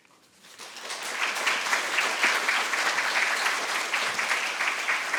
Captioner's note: audience applauding